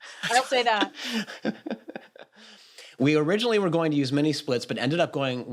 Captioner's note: laughs